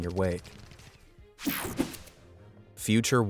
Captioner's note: air whooshing